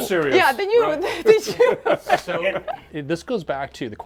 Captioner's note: laughing